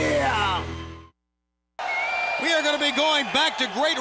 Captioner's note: crowd cheering